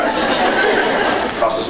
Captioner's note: scattered laughs